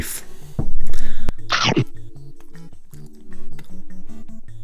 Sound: chomping sound

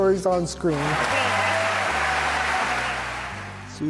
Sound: applause

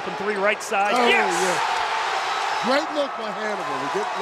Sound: crowd cheering

